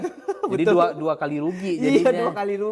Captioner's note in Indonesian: tertawa